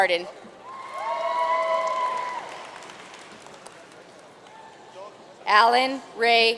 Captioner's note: audience cheering and applauding